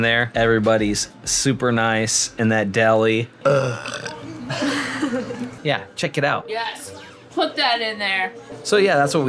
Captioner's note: groans